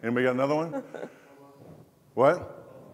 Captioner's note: laughs